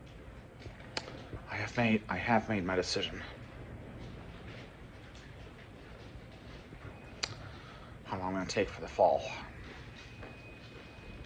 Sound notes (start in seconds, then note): none